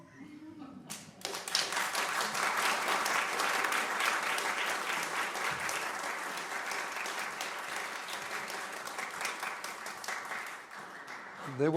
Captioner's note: applause